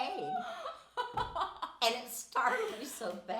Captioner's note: laughing